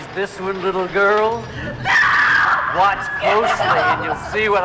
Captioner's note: Liz screaming